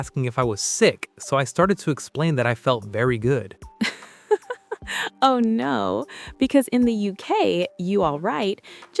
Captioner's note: laughs